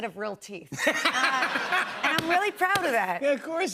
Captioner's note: laughter